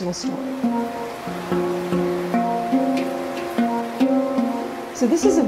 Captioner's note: water rushing